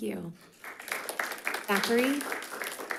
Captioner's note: audience applauding